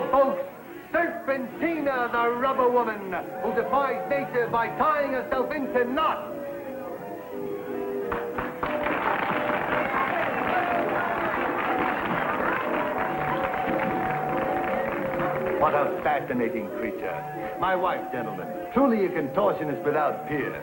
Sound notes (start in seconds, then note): 14.6 applause